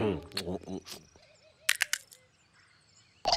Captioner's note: knuckles crack